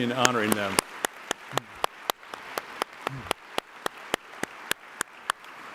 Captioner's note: applause